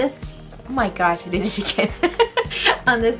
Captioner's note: laughs